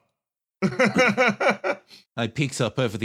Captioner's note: laugh